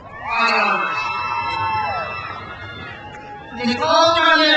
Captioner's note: crowd cheers